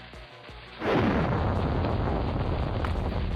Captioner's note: boom